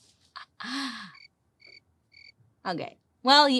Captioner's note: crickets chirping